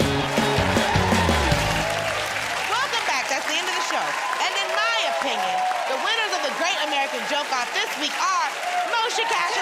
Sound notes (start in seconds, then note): 1.2 cheers and applause